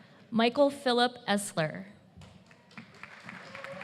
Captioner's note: applause